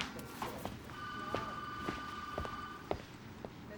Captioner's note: phone ringing